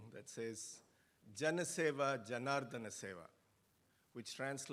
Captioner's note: speaking in foreign language